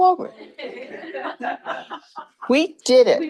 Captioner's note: crowd chuckling